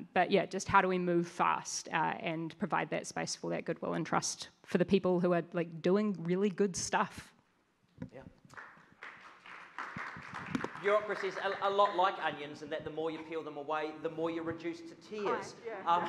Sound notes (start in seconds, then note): 8.4 audience claps